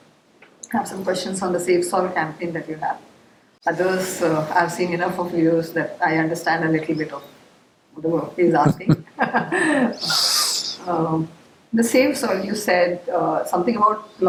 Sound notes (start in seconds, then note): 8.5 laughs